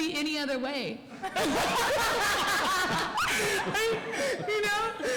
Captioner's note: laughter